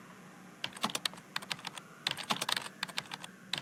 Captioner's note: keys typing